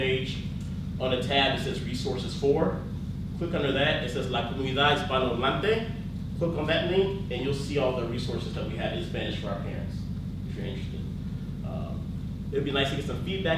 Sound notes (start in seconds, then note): 4.6 speaks in foreign language